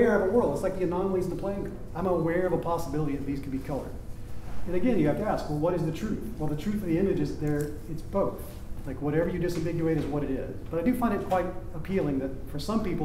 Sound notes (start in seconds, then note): none